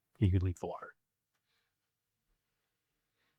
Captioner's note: silence